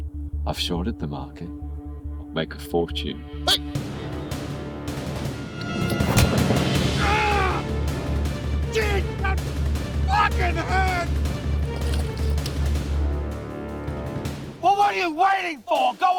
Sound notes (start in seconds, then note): 3.4 yelling; 5.6 dramatic music